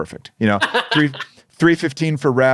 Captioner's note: laughing